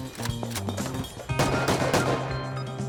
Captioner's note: turret firing outside